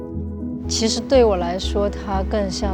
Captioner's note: Mandarin